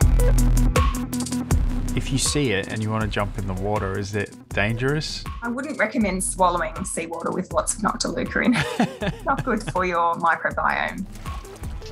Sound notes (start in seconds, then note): 8.4 laughs